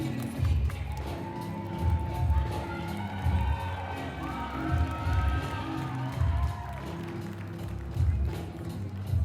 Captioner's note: applause